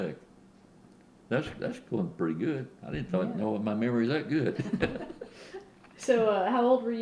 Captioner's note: laughter